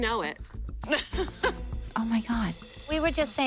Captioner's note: laughs